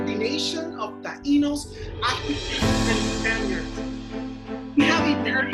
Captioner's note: speaks in Spanish